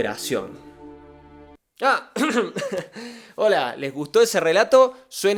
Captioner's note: cough